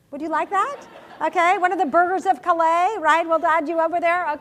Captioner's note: laugh